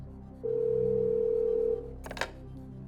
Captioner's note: phone ringing